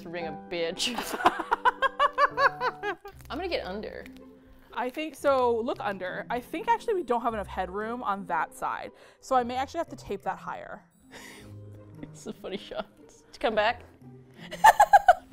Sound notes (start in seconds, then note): 0.9 both laugh; 11.2 laughs; 13.7 laughs uproariously